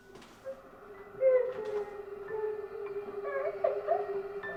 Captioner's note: woman whimpering